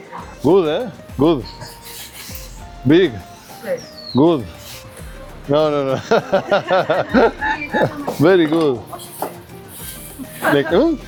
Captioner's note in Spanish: risas